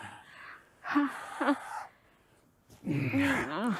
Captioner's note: whimpering softly